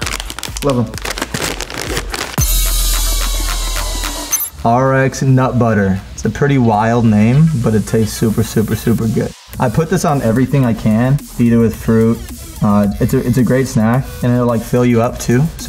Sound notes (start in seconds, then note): 0.0 packet crunching; 2.7 upbeat music